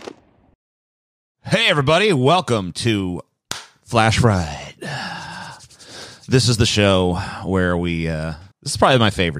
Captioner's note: clap